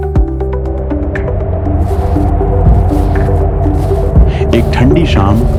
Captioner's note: wind-blowing